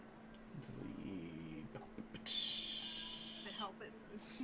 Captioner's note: budget beatbox noises